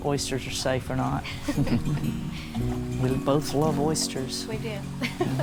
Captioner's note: both laugh; laughs